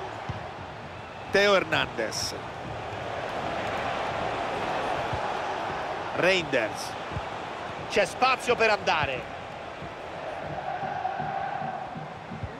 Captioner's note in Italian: Applauso